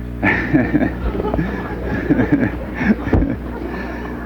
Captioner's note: group laughs